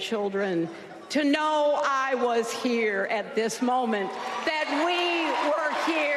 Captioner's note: applause